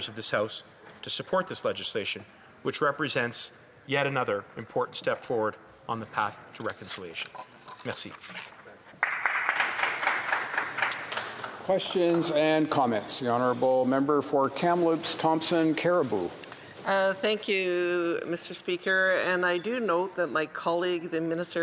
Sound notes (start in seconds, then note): 11.6 some Applause